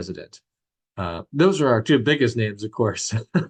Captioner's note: chuckles